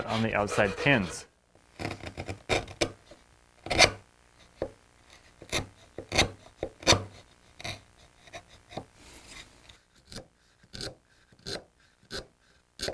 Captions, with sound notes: on the outside pins. (wood scrapes)